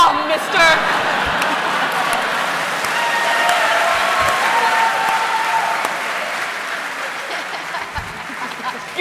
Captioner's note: laughter